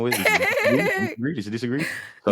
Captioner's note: laughing